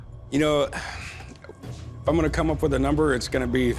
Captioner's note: sighs